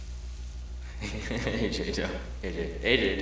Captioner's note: laughing